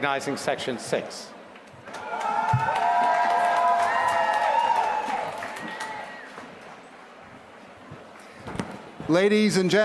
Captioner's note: applause